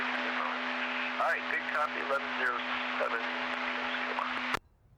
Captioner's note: muffled radio chatter